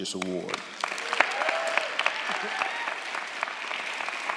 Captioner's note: audience applauds